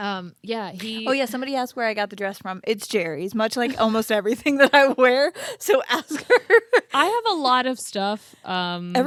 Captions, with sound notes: - Yeah, he- - Oh yeah, somebody asked where I got the dress from. It's Jeri's much like almost everything that I wear. So ask her (laughs). - I have a lot of stuff.